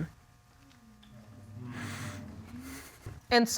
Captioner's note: breath quivering